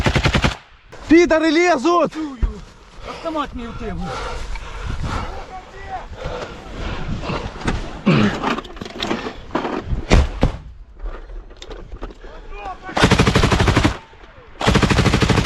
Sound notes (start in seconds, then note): 5.5 Russians shouting "Where's "Muha"?; 11.3 Russians shouting "Go, go!"